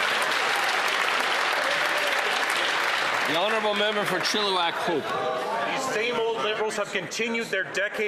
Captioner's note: applause